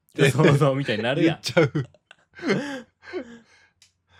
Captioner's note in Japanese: 笑い